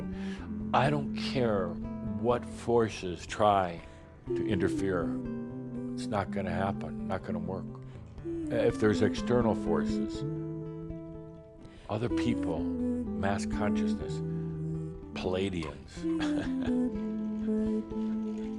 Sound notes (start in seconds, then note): 16.0 chuckles